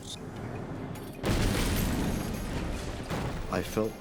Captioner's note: explosion booms